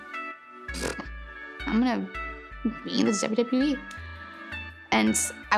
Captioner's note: razzes